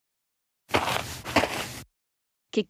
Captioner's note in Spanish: FX - Footsteps - On Multiple Dirt - Walk